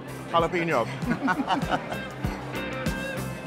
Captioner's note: laughter